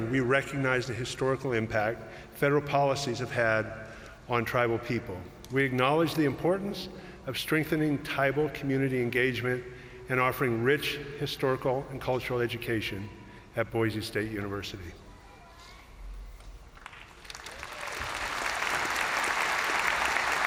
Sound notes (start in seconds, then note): 16.8 crowd applauding